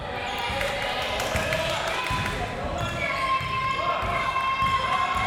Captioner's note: crowd members shouting